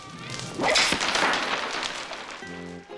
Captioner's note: loose beads rattle on floor